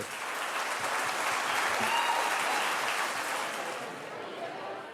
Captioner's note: audience applauding